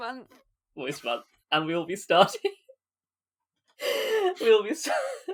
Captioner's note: laughing